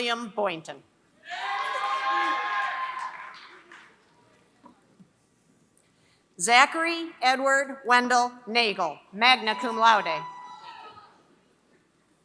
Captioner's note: applause